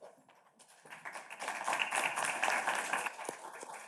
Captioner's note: audience claps